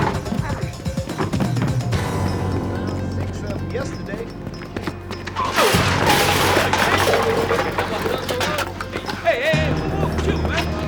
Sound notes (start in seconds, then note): 3.0 indistinct chatter; 5.2 crashing